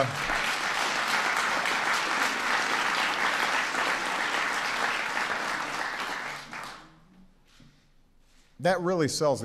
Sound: laughter and applause

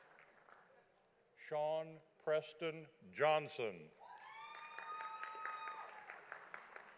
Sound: audience applauding

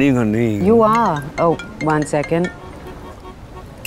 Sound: cell phone ringing

